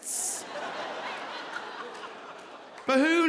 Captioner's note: audience laughing